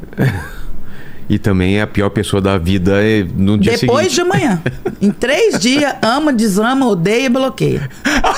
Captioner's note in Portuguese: risadas